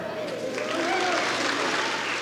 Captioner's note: applause